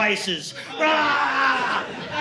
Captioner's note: screaming